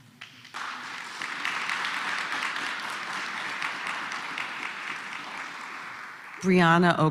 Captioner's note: applause